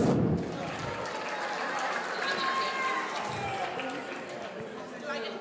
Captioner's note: audience cheering